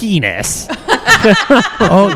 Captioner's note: laughter